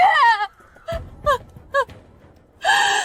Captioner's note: screaming